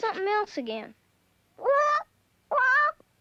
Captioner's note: squawking